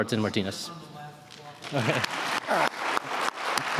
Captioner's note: applause